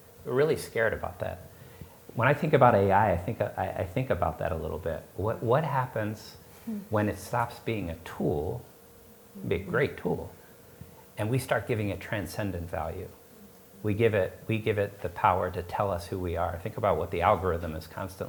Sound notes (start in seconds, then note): none